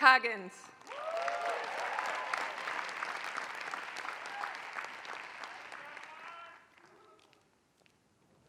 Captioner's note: applause